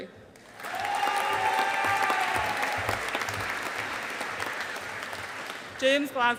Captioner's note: audience applauding